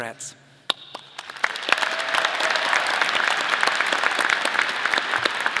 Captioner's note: audience applause